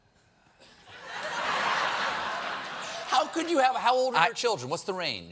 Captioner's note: laughter